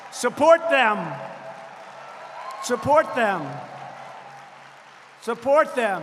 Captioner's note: applause